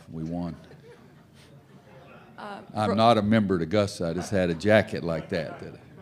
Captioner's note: laughter